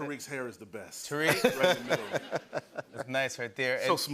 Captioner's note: laughter